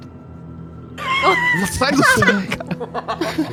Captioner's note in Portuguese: risada